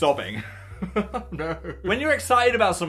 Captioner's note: laughs